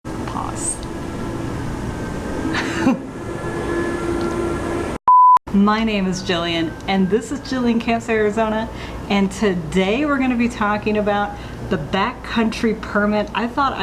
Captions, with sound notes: Pause... (Laughing) (Beep) My name is Jillian and this is Jillian Camps Arizona and today we're going to be talking about the Backcountry Permit. I thought